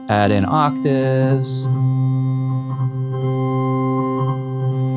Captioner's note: loud humming